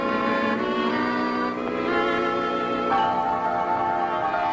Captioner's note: bird squawks; gentle music